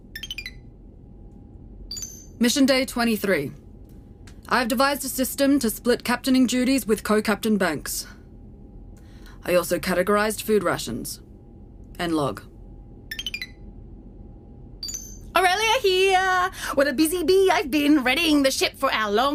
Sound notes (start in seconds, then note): 0.1 beeps; 13.1 beeps